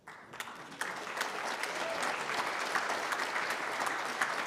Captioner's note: applause